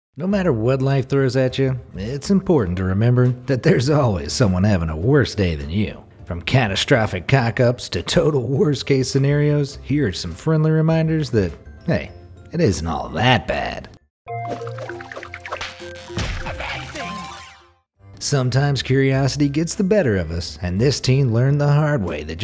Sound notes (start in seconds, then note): 14.2 upbeat music; 14.4 water splashing